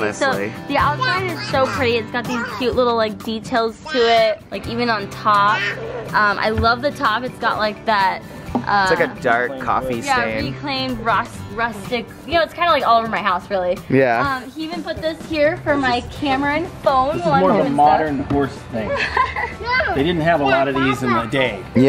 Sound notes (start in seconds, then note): 18.9 chuckles